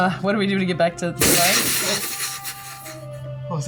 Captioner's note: sizzling sound